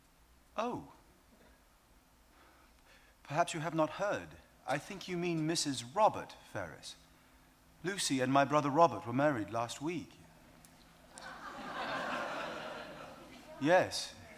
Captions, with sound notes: - Oh, perhaps you have not heard then. I think you mean Mrs. Robert Ferrars. Lucy and my brother Robert were married last week. (audience laughs) Yes.